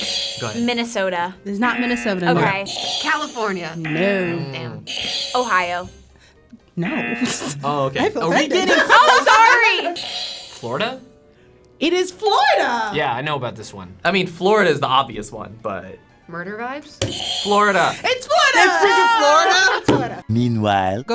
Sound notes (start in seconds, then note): 1.6 button chiming; 3.8 buzzer buzzes; 4.8 button chiming; 6.8 buzzer buzzes; 6.8 laughs; 9.6 laughing; 9.9 bell chiming; 9.9 button chiming; 17.0 button chiming